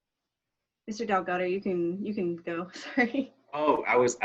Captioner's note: laughing